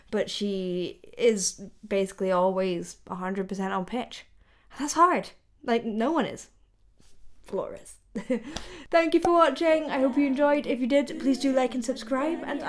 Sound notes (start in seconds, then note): 8.2 delighted chuckle